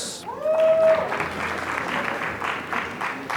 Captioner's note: applause